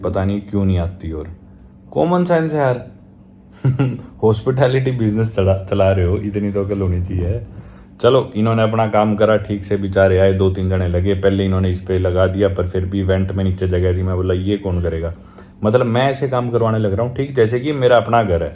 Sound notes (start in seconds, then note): 3.6 laughing